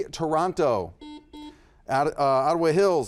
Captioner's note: buzzer buzzes